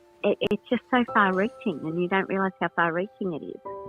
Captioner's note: phone voice